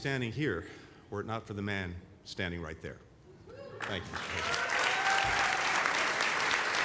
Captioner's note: applause